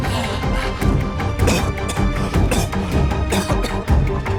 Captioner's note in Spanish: Tosidos